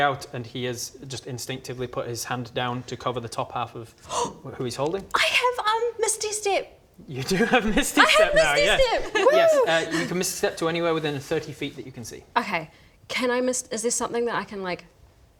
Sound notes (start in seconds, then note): 4.0 gasp!